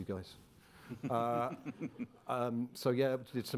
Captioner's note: chuckling